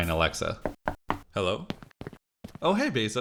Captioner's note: knock knock knock